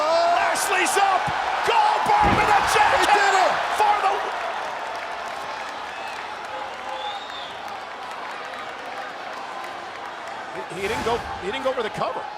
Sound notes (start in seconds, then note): 7.8 applause